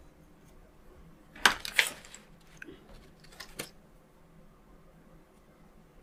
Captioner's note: silence